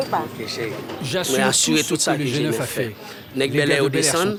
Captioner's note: French spoken audio